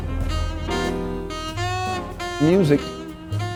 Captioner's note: prison gate slams